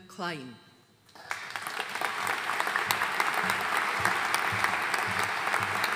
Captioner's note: audience applauding